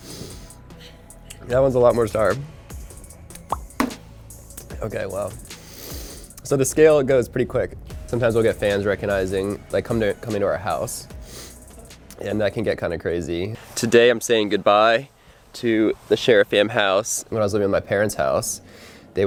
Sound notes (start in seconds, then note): 0.0 breath inhaling; 3.5 digital popping; 3.7 candy thunking; 5.5 breath inhaling